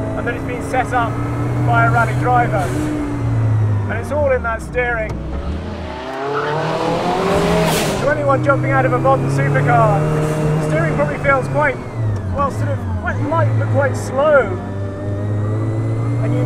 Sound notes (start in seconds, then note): 6.0 car engine revs